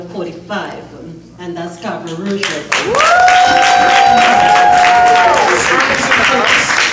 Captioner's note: cheers